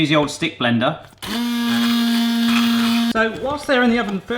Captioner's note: blender buzzing